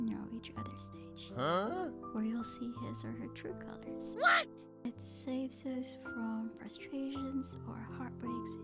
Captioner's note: huh!?!